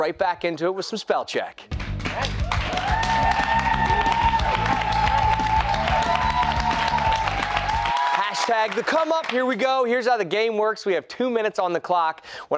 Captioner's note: cheers and applause